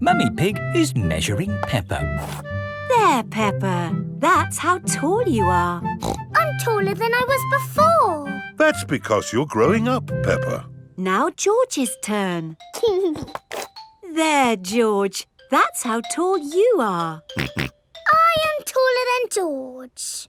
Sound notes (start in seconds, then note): 6.0 snorts; 13.0 giggling; 17.4 snorts